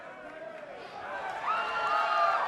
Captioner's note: crowd cheering